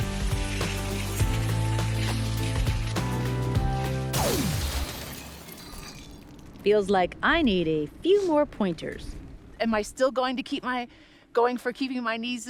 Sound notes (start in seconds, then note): 4.1 glass shatters